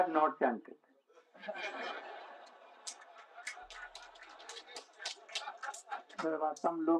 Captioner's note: смех